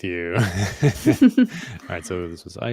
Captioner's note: laughter